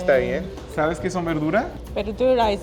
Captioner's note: speaking Spanish